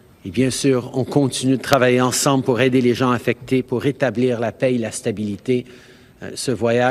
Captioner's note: speaking french